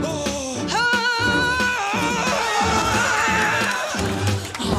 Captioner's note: action music plays; growls